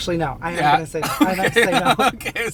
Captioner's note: both laugh